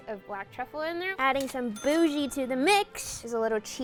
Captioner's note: chimes